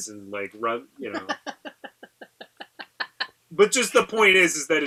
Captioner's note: laughing